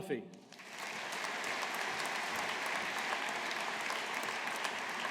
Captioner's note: audience applauding